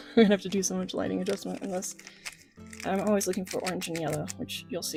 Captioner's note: laughing